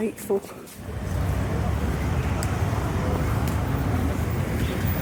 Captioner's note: street noise